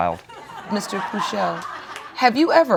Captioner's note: audience laughing